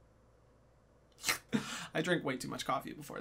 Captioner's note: slurps